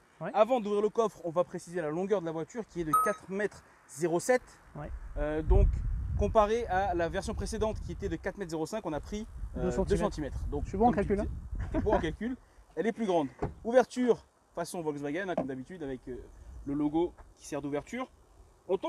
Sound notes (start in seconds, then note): 11.6 laughs